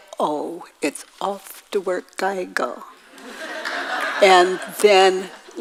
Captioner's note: audience laughs